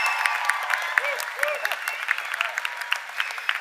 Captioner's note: laughter; cheers and applause